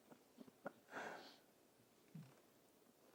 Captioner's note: laughs